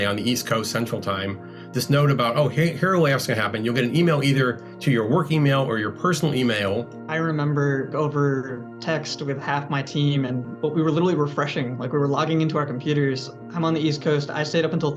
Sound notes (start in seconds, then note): none